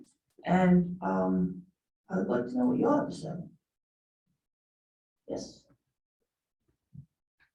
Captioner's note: pause